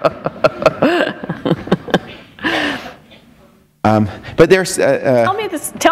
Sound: laughter

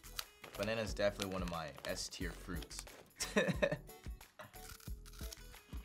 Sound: laughs

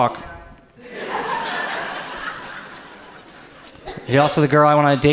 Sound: audience laughs

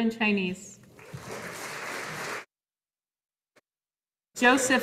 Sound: audience applauding

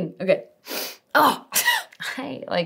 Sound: laughs

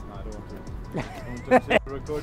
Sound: laughs

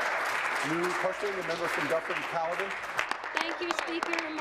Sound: applause

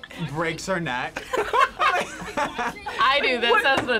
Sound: both laugh

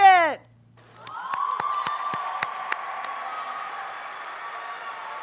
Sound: audience applauding

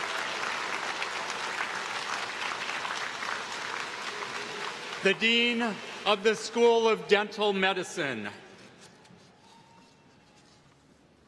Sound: applause

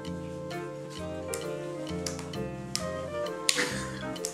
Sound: slap slap

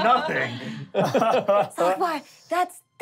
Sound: laughing

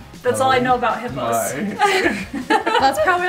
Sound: laughing

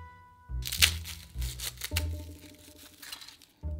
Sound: garlic paper rustling

